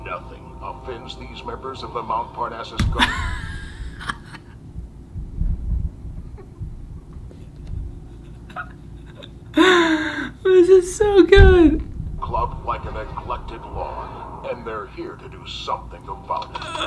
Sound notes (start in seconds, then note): 2.9 laughs